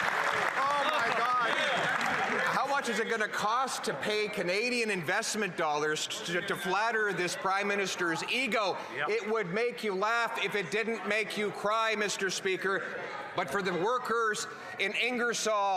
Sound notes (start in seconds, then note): 0.0 applause